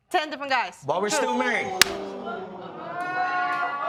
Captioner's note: audience react